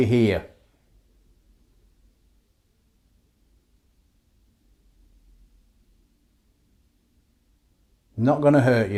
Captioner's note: silence